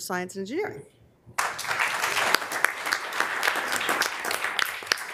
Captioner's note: members applauding